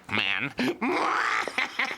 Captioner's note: laughing